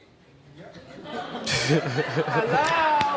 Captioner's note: audience laughing